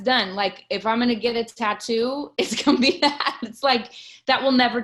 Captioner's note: laughs